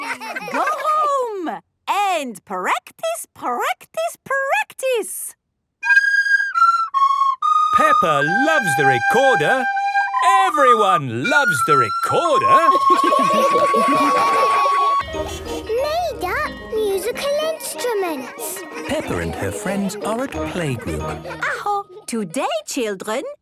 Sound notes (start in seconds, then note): 5.2 playing theme song; 12.9 laughter